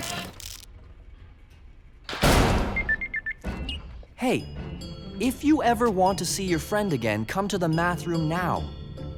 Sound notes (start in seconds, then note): 2.2 door slams shut, cell alert beeps